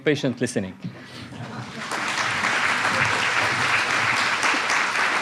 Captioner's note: applause